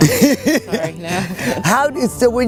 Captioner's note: laughing